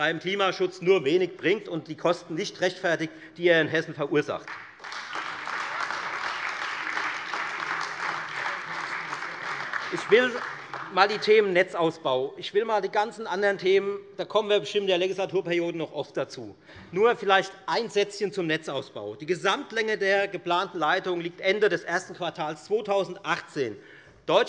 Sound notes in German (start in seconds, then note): 4.4 Beifall Freie Demokraten und vereinzelt AfD